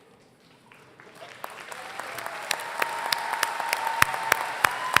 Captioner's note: applause